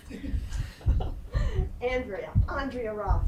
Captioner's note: laughing